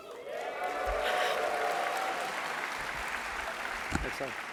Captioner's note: applause